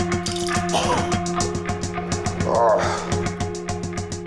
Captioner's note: heaving; groaning